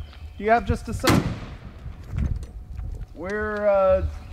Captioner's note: toolbox clangs on the ground; bonnet slams closed